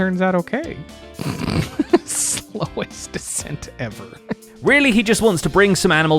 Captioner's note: snorts laughing